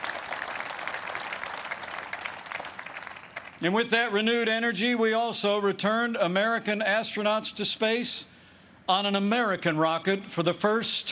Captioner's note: applause